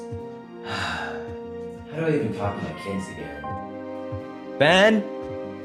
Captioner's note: exasperated sigh